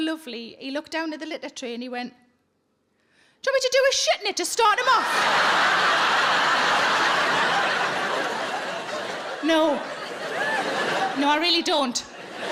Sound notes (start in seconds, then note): 4.9 audience laughing